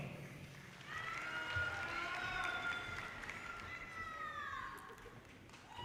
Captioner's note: audience cheers and applause